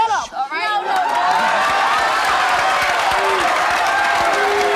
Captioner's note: audience cheering